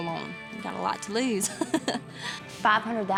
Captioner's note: chuckles